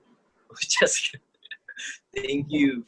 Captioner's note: in Spanish